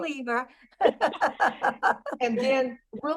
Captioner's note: laughter